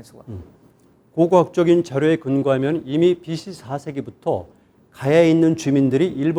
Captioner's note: speaking in Korean